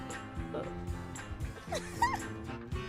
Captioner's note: nervous laugh